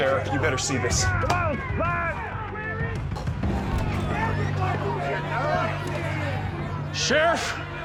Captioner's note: voices clamoring